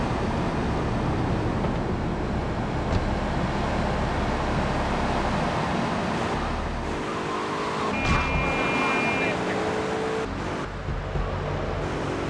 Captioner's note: sirens wailing